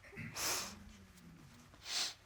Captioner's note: sniffling